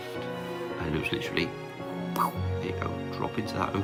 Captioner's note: mouth popping